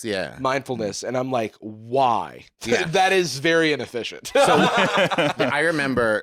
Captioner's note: laughs